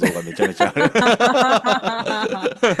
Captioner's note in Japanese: 笑い